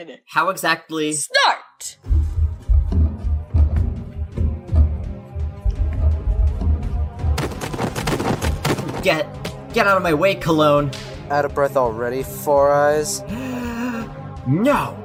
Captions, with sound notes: How exactly— START! *shoving noises* Get— get out of my way Cologne! Out of breath already, four-eyes? *deep gasp* NO!